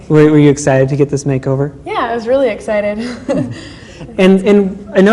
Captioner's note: laughs